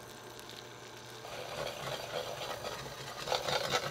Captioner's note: whisking